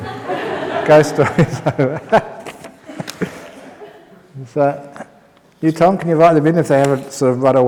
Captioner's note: laughs